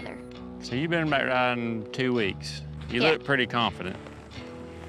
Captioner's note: none